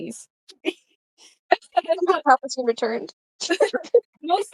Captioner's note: group laughs